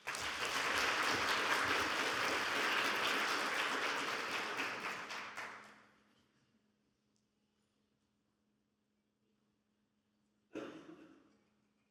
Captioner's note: audience applauding